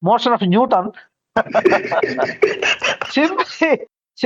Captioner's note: laughs